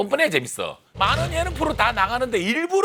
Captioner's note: starting Engine